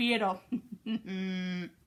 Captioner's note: snickers